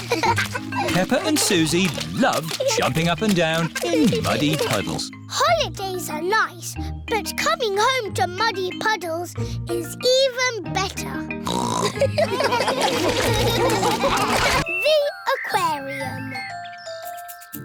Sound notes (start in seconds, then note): 11.4 snorts; 11.8 laughter